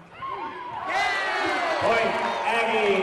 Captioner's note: whistle blowing and cheering